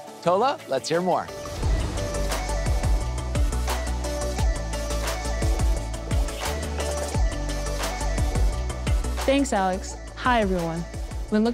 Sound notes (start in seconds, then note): 1.2 upbeat airy music intensifies; 1.4 graphics whoosh